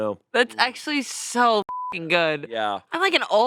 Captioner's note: beep